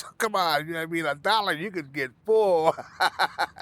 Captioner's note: laughing